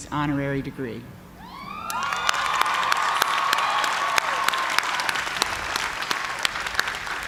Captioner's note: cheers and applause